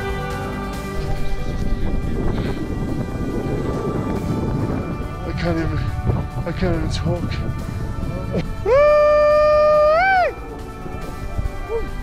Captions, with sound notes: (wind whipping) I can't even, I can't even talk. Wooo-ay!